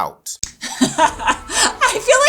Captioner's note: laughs